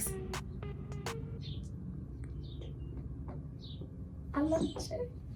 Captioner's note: birds chirping